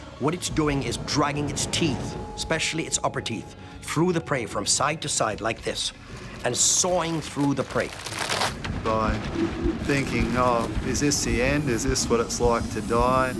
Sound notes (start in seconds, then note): 8.0 crunch